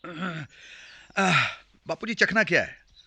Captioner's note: sighs